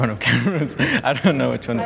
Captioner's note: laughs